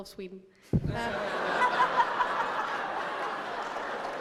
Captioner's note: laughter; applause